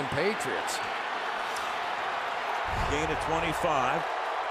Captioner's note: cheering